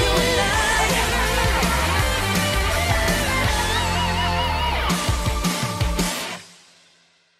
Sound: laughing

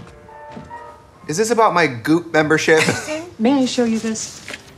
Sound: laughing

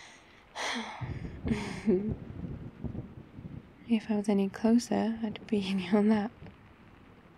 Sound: sighs; laughs

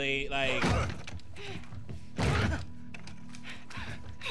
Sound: Abby and Owen grunting

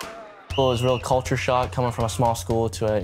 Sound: whistle blows

